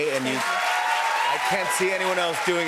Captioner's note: cheers and applause